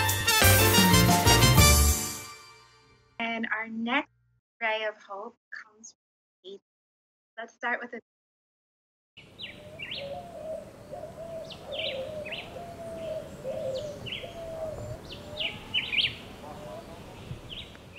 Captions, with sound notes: - And our next Ray of Hope comes from Haiti. Let's start with a video. (birds chirping)